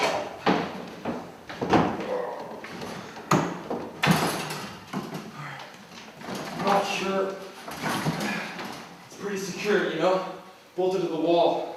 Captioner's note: climbing noises and grunts